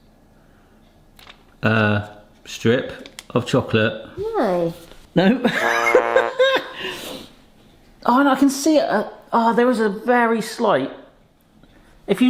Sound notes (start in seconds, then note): 5.5 laughs; 5.6 fail trombone honks